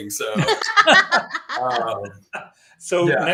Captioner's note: laughter